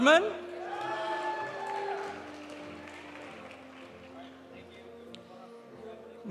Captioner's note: audience applauding; audience cheering